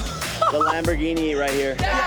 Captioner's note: laughs